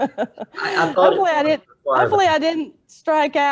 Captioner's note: laughs